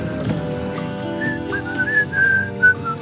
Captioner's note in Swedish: visslar